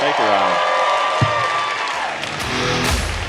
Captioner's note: audience cheering; upbeat music